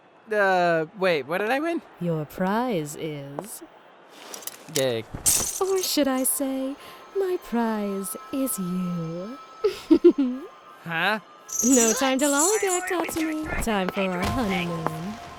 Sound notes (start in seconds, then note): 9.6 giggles